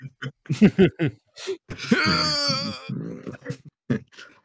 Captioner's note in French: cri de douleur